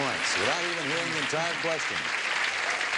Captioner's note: audience clapping